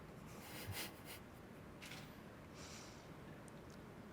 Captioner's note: laughing